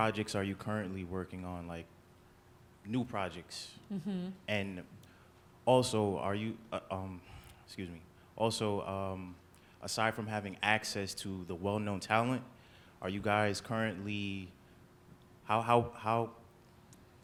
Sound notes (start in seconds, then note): none